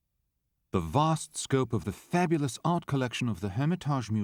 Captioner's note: voiceover